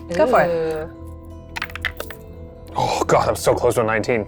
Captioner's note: dice clattering